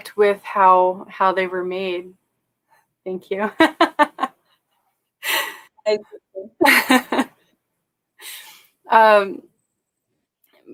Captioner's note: laughter